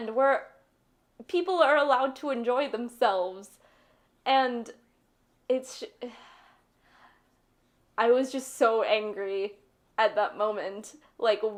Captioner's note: sigh